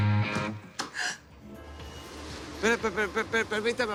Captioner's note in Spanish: Sollozos